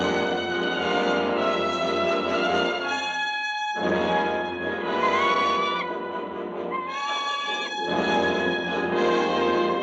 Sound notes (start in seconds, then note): 5.2 bird squawking